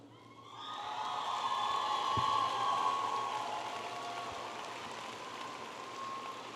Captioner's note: audience applauding and cheering